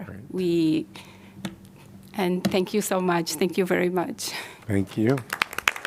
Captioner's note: applause